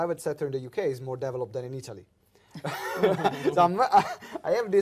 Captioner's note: laughs